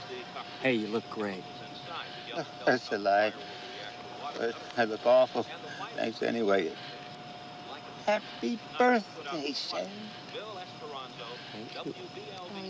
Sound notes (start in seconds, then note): none